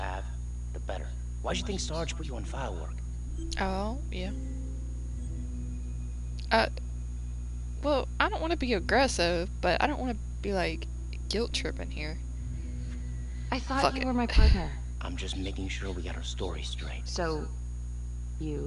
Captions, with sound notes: Ohh, yep Uh-- Well, I don't wanna be agressive, but I don't wanna be like, guilt-tripping here. Fuck it (sighs)